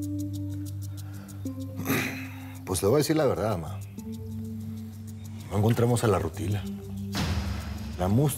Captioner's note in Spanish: carraspea